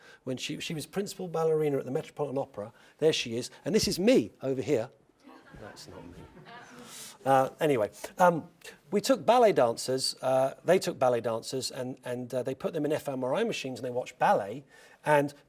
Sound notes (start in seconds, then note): 5.3 laugh